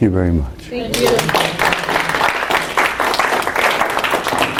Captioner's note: students applause